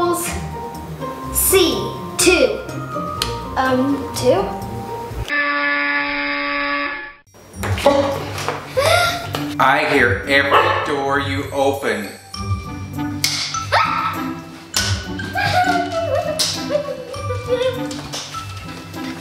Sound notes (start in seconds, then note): 5.3 buzzer noise; 13.6 ruler slamming